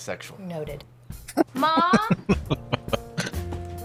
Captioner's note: laughing